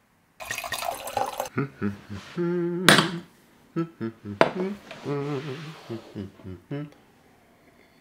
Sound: content humming

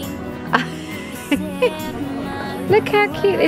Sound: laughs

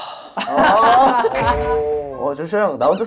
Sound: hahahaha; exhales a lot in the house

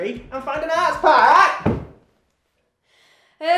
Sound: thud

